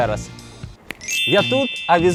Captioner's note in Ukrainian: Магічний звук